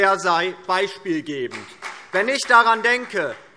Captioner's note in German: Demonstrativer Beifall